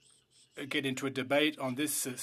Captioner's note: speaking French